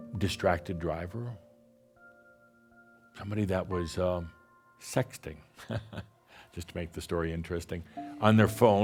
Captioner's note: chuckles